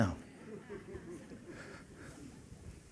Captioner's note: laughter